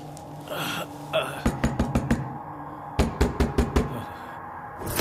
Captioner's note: Pounding on door